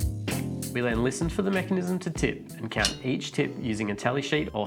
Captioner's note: metal sound